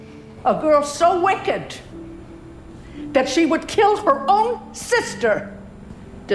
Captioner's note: voiceover